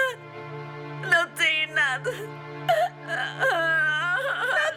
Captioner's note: crying